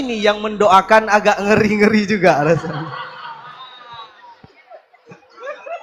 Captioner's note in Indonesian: tertawa